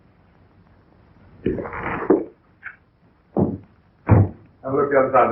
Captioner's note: pounding